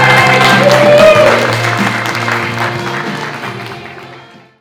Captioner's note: applause